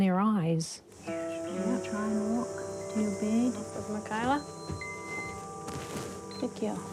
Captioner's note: beeping